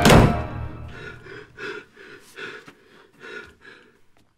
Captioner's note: panting